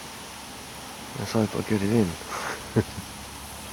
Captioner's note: laughs